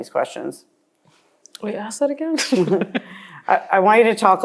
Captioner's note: laughs